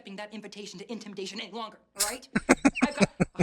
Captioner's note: laughing